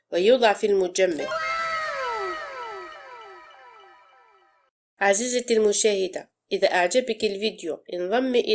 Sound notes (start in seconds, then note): 1.2 fairy tail wow sound effect